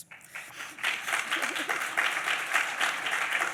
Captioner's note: applause